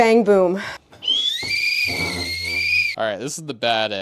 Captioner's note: whistle